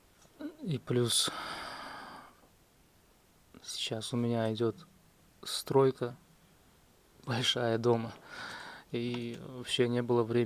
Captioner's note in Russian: вздыхает; тяжело вздыхает